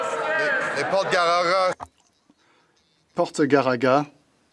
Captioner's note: some Applause